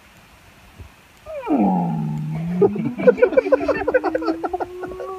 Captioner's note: whale noises; giggling; whale noises continuing